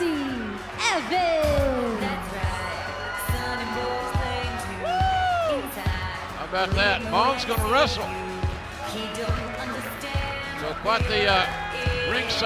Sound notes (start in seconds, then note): 5.5 cheers and applause